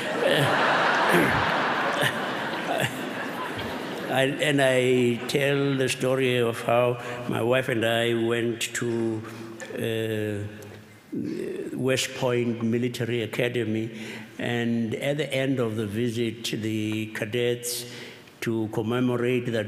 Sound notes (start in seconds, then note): 0.0 laughter